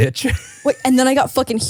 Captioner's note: laughs